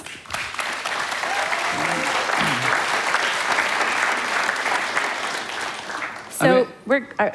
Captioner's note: applause